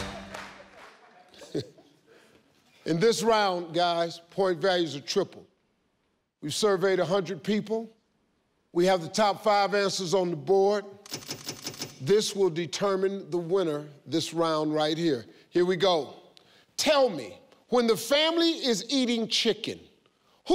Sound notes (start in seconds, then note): 0.6 chuckling